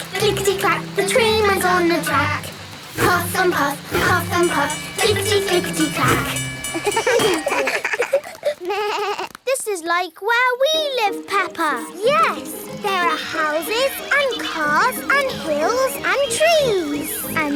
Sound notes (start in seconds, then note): 6.6 all laugh